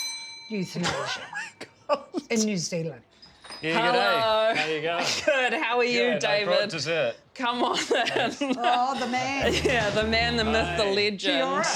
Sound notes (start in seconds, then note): 0.0 doorbell rings; 1.5 laughs; 9.4 chuckles